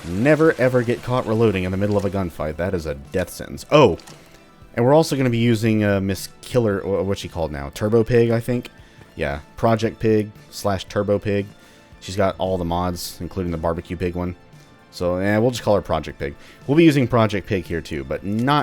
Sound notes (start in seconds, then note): none